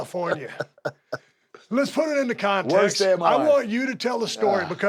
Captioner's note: laugh